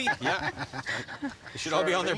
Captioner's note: laughing